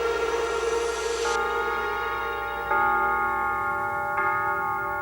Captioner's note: church bells